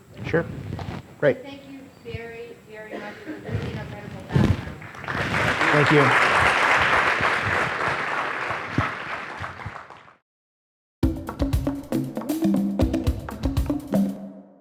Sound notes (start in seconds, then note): 4.7 audience applauding; 11.0 jungle drum beats